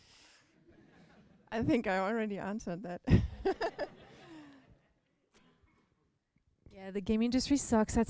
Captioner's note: laughter